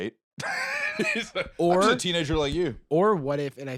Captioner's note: laughs